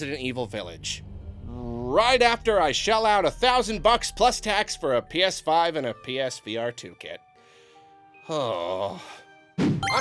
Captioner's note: sigh